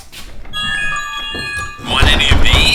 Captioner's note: phone jingle